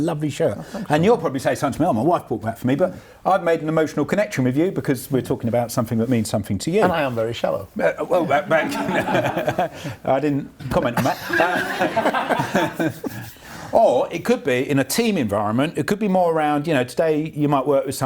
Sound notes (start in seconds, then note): 8.2 laughs